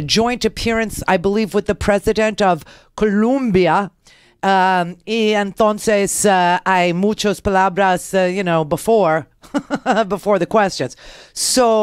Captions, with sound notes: but he's doing it in a joint appearance I believe with the President of Columbia Ian Thorne says (foreign language) before. (laughs) Before the questions.